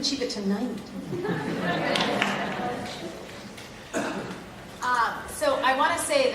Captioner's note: laugh